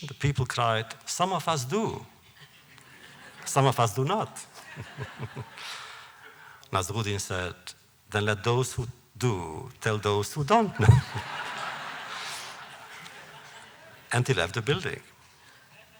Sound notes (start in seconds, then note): 4.4 laughter; 10.7 laughter